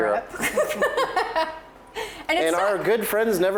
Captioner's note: laughing